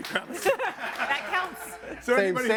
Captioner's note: audience laughing